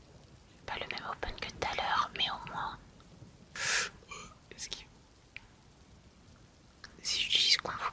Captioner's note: gasp